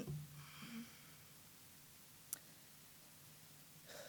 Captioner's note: sighing